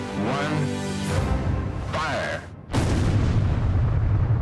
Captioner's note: explosion